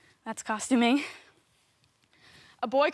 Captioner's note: soft breathing